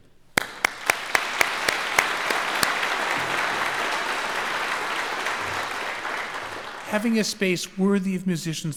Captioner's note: applause